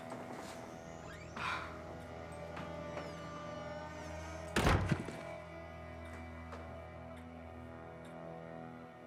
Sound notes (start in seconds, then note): 1.4 Robin gasps